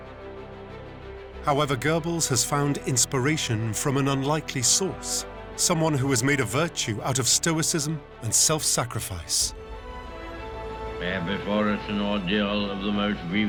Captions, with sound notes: However, Goebbels has found inspiration from an unlikely source, someone who has made a virtue out of stoicism and self-sacrifice. [Churchill on radio] We have before us an ordeal of the most grievous kind.